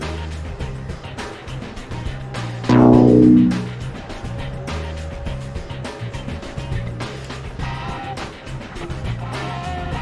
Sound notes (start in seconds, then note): 2.7 anticipatory music playing; 2.7 lose tone sounding